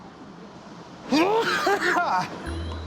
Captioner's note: coughing hard; laughs